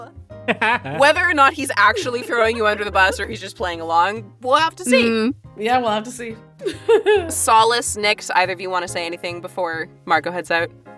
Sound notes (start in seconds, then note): 0.0 laughs; 6.6 chuckles